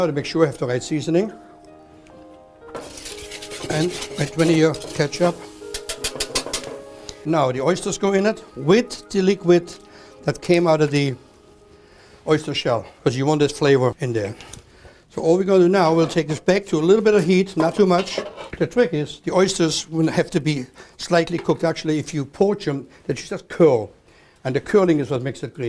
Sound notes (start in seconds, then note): 5.7 tapping